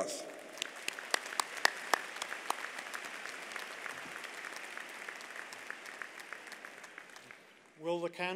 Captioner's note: applause